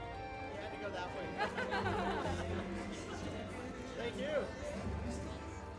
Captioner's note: laughs